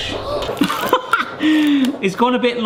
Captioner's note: laughs; gasps